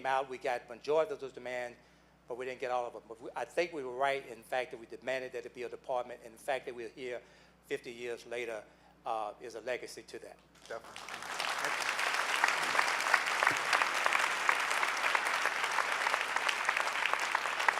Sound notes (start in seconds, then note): 12.1 clapping